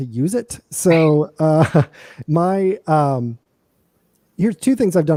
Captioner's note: laughter